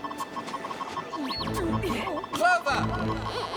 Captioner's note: beeping